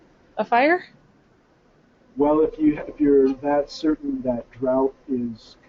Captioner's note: voiceover